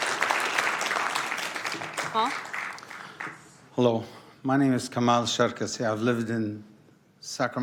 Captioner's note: applause